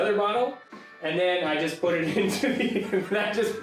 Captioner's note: laughing